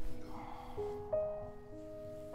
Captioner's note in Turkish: Nefes sesi